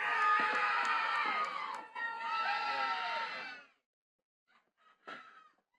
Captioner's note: attendees cheering and clapping